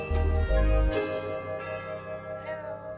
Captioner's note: doorbell rings